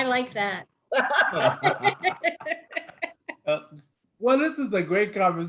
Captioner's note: speakers laughing